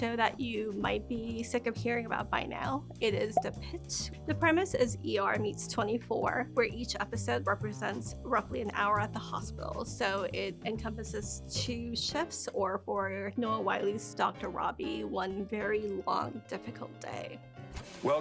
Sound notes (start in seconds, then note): 3.2 graphic popping